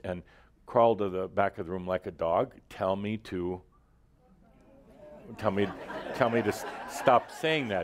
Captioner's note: laughter